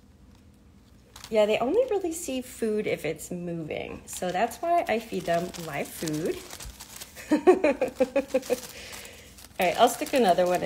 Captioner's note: giggles